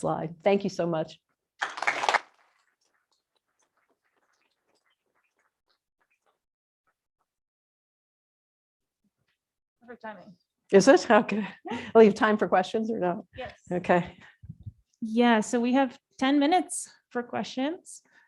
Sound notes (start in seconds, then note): 1.6 applause; 2.7 sudden silence